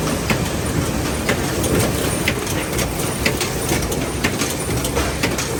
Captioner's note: machine clunking